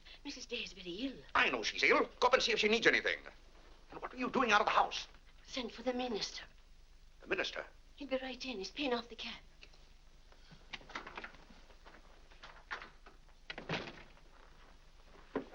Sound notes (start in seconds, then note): 10.6 door opens; 13.4 door closes